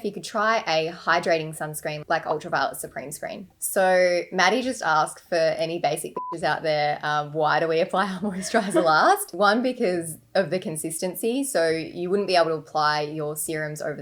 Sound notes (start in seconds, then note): 6.1 beep